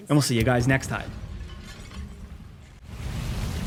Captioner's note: glass shattering; scene whooshing